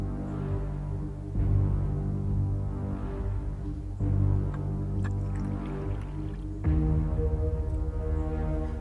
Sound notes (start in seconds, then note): 5.0 water splashing